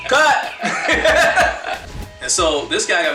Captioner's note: laughing